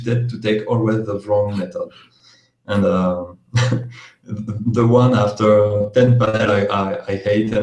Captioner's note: laughs